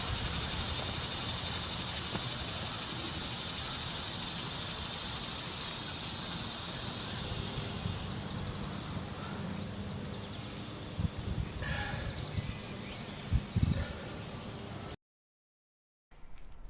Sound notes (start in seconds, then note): 2.4 birds chirping